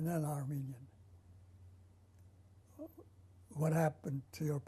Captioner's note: pauses for 3 seconds